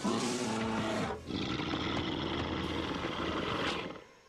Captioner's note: roars